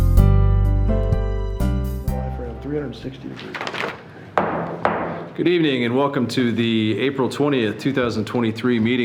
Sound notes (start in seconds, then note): 4.3 gavel banging